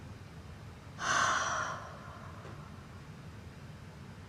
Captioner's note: Gina sighs